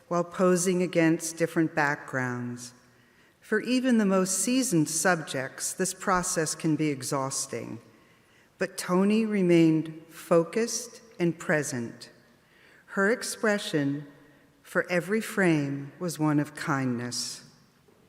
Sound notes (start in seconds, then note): none